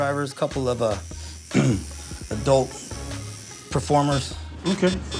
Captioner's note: clears throat